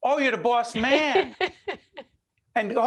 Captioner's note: laughing